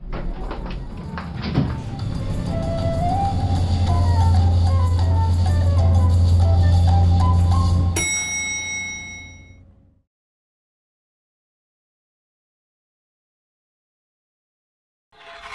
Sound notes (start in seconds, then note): 0.8 elevator doors close; 8.0 ding